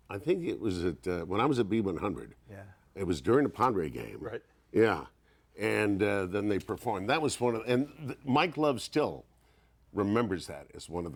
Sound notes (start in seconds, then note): none